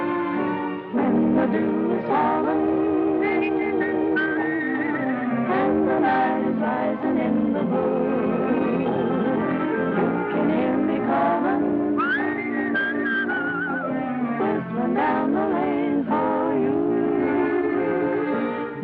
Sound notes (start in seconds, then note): 0.8 singing; 3.3 whistling; 5.3 singing; 11.9 whistling; 14.9 singing